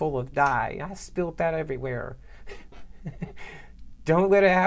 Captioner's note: laughing